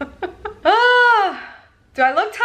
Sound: laughing

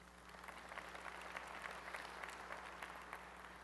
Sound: applause

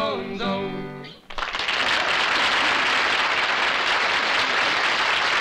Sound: applause

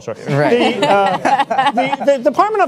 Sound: panelists laugh

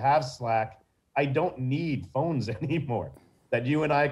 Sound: chuckling

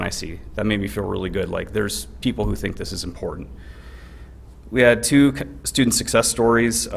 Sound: none

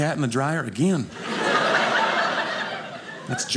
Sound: audience laughing

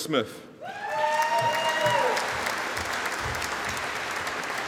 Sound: audience applauding

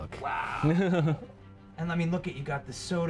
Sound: laughs

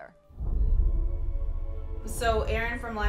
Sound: pensive music; scene whooshing

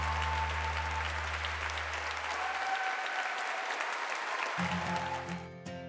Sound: applause

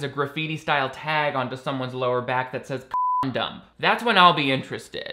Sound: beeps

